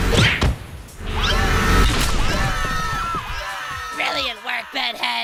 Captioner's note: screaming